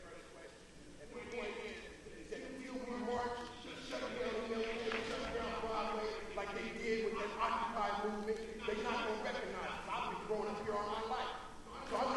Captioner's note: audience member shouting